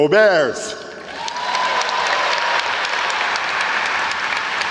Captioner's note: audience applauds